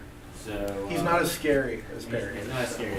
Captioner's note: voiceover